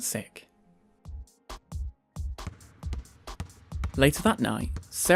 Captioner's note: hip-hop music; bouncing basketball sounds